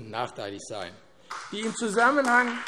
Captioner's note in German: Beifall AfD